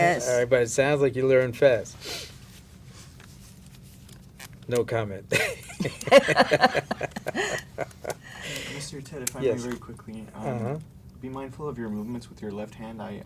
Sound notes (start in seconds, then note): 7.0 laughter